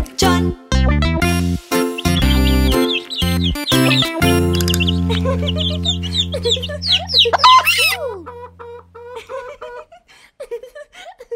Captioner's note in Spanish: Música Alegre; Sonido pollitos; Sonido gallina